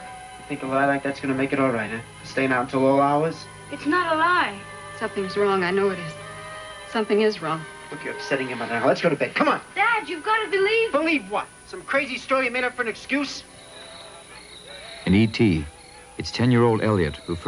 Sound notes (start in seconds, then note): 14.0 crickets chirping with radio playing